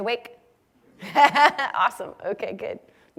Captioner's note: laugh